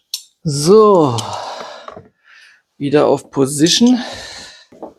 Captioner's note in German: seufzt